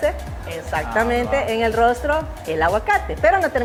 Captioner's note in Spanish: Laughter